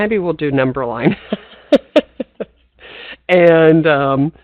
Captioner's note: laughs